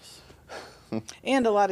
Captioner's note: laughing